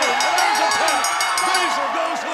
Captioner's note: bell ringing